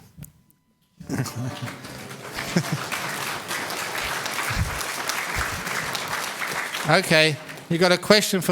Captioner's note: audience: Sadhu, sadhu, sadhu